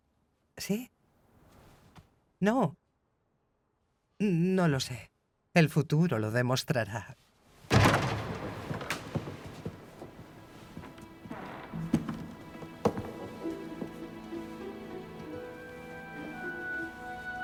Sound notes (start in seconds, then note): 7.7 door clattering; 8.1 gentle dramatic music